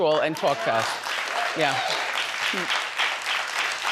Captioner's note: audience applauding